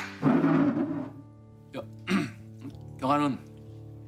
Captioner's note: clears throat